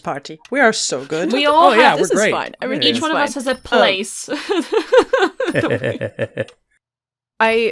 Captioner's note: laughs